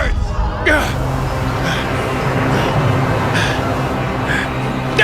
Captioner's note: panting